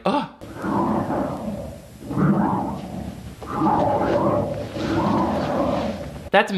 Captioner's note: Zeke the Plumber breathing